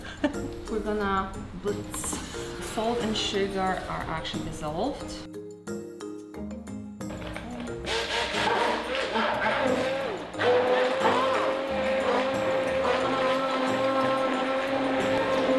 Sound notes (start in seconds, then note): 0.1 laughing; 5.6 whimsical music; 7.1 blender buzzing and whirring